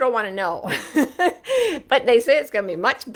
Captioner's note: laughs